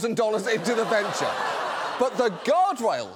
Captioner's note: audience groans